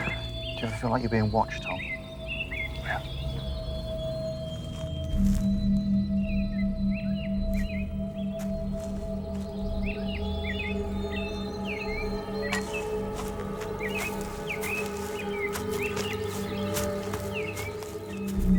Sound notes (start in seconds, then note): 7.3 birds chirping; 12.0 leaves crunching